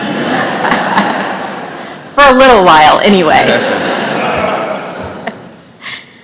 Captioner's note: laughter